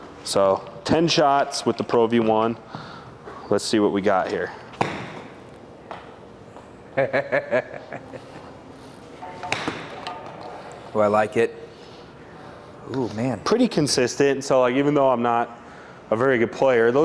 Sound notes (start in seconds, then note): 4.8 golf club hits ball; 7.0 laughs; 9.5 golf club hits ball